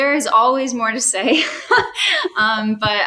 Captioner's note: laughs